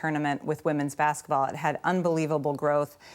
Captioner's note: none